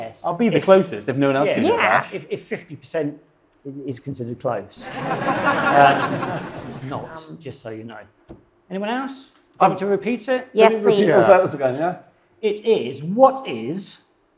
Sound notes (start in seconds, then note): 4.8 audience laughs